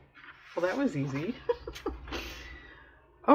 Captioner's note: laughs